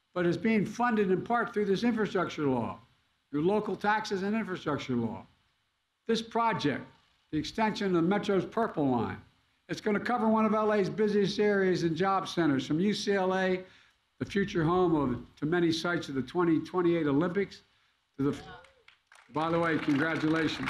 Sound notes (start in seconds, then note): 18.4 applause